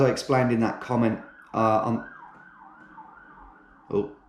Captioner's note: passing police sirens